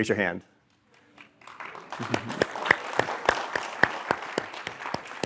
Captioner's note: applause